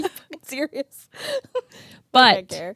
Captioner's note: both laugh